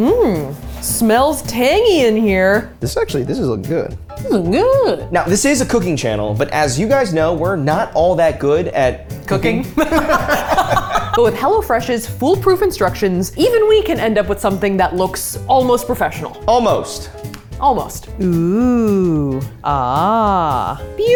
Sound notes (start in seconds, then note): 9.7 laughing